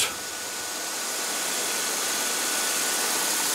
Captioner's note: hissing